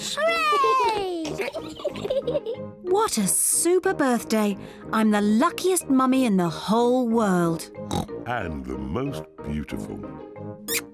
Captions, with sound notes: -Hooray! -(BOTH GIGGLING) What a super birthday. I'm the luckiest mummy in the whole world. (OINKS) And the most beautiful.